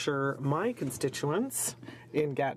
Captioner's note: speaking French